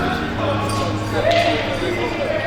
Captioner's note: arena Ambience